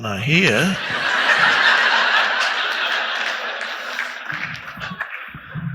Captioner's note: audience laughing loudly